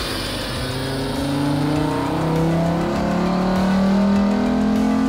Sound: engine revving again

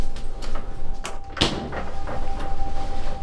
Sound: refrigerator door shuts

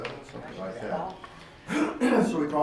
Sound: clears throat

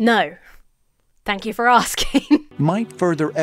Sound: laughs

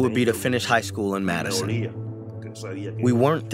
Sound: through translator

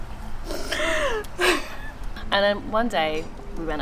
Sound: laughs

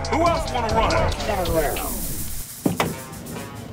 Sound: engine hissing

